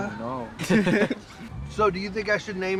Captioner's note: laughter